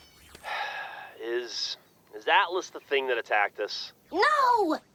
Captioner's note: sigh